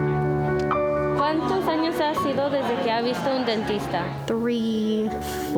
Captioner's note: speaking in Spanish